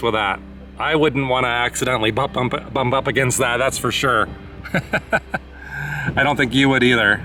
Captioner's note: laughter